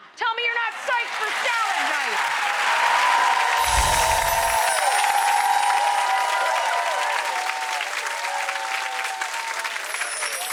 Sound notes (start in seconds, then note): 2.5 audience applauding; 2.5 audience cheering